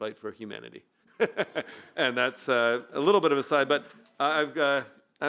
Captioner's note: laughs